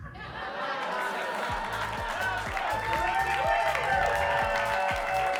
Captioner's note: audience cheering and clapping